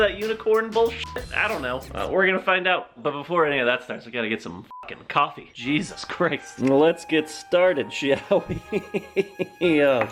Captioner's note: chuckling